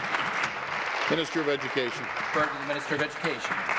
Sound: applause

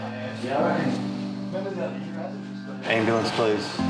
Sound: people chatting

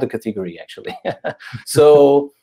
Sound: both chuckle

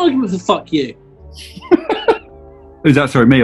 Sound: giggling

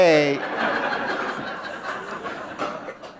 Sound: laughter

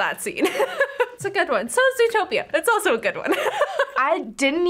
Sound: laughs

